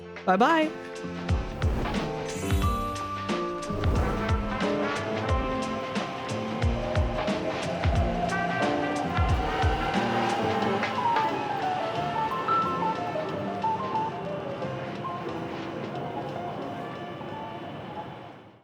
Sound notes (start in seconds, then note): 3.8 jazzy piano plays out; 4.0 a modern train takes off and whistles past